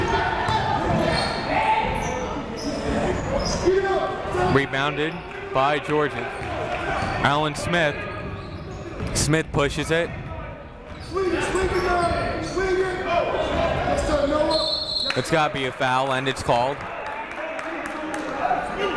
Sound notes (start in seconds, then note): 14.4 whistle blowing